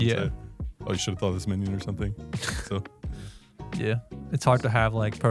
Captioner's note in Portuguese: risos